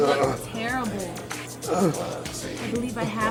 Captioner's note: man moaning; man continues moaning